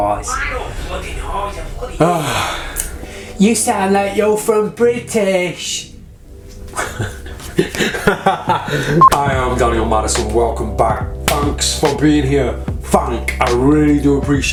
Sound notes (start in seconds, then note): 2.0 sighing